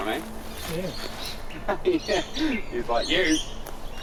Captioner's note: chuckles